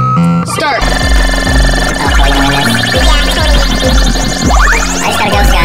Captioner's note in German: Videospiel-Sound-Effekte